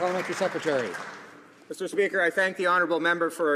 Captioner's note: some Applause